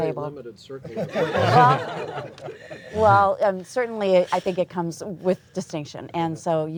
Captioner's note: laughter